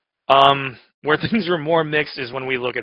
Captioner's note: laughs